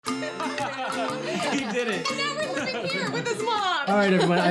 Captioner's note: laughing and talking